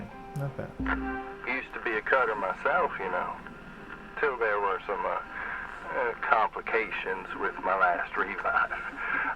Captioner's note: chuckle